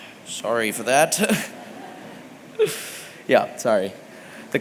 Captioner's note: laughter